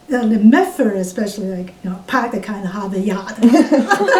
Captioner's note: all laugh